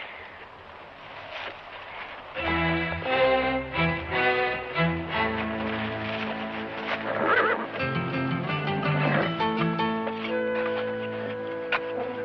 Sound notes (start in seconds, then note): 2.3 suspenseful music; 7.0 horse neighs